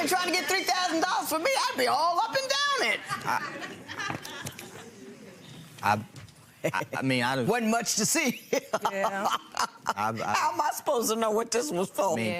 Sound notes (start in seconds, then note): 2.9 audience laughing; 8.6 laughs